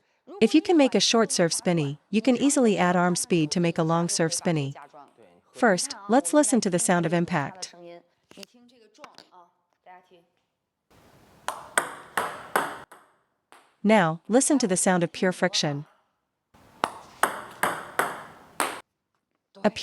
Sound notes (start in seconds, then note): 10.9 sound of paddle hitting the ball; 16.6 sound of paddle brushing the ball